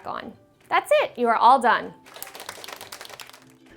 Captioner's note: clapping